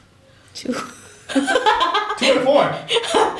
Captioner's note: laughter